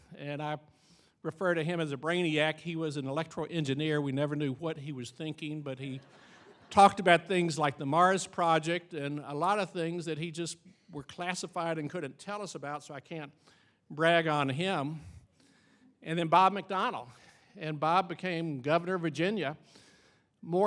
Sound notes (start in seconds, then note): 5.8 audience laughing